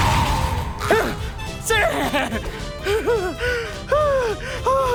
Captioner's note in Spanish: Jadeando